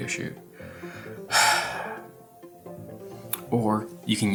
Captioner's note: exhales heavily